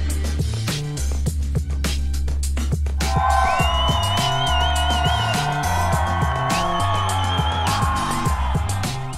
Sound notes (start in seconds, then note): 3.0 cheering